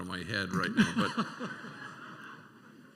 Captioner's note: laughter